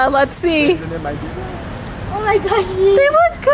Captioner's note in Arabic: دردشة الأولاد